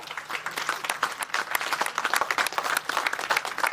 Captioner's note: crowd clapping